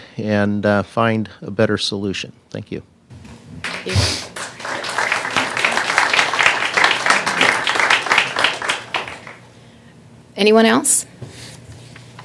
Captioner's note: applause